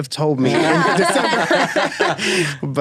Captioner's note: laughing